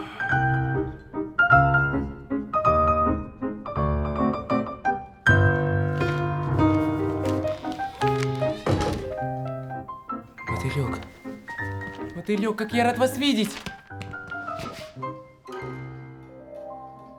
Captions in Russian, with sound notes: (ВЗДОХ) (СКРИП ДВЕРИ) Мотылёк! Мотылёк, как я рад Вас видеть!